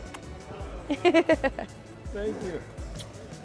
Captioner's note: laughing